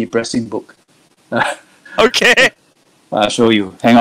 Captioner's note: laughs